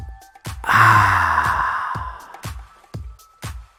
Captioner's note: deep inhale; deep exhale